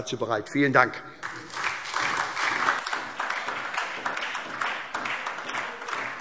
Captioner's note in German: Beifall SPD und vereinzelt Freie Demokraten